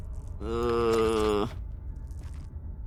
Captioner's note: groans